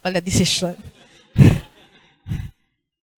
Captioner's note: laughter